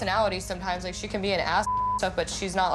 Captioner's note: beep